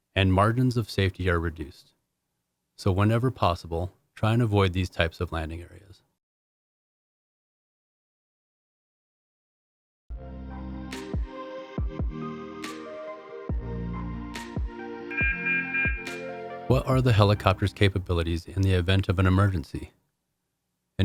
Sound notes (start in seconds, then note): 10.1 gentle upbeat music; 15.1 alarm beeping